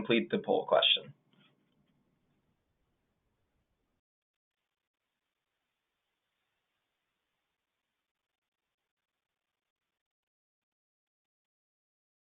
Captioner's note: silence